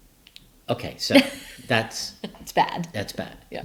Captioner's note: laughing